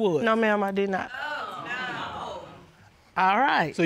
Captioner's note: audience gasps